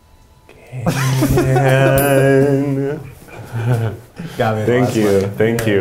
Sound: laughing; bell rings

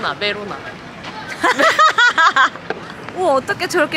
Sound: laughing

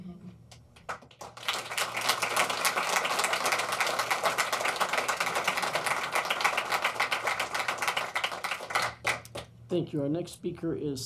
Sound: applause

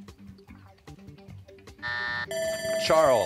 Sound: buzzer; bell ringing

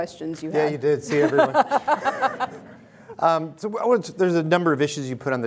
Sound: laughing

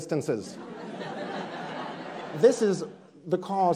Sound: audience laughs

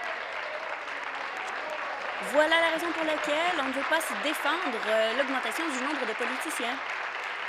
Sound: applause

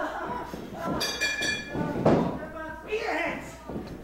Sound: bell ringing

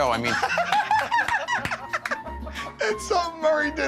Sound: laughter

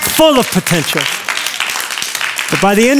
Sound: applause

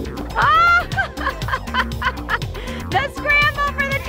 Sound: female laughing

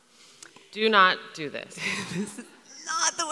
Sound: laughs

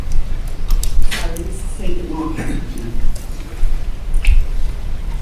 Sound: speaking faintly

